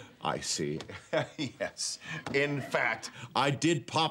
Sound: chuckling

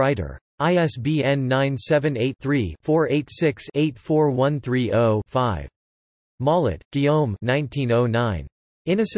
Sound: in German

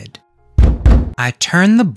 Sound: knocking

